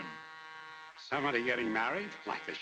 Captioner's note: train horn blares